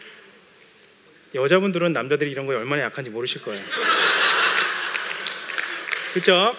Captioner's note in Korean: 웃음